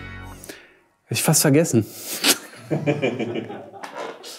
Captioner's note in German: Lachen von hinter der Kamera